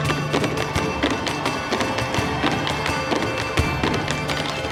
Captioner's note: shoes tapping